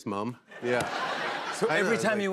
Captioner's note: laughter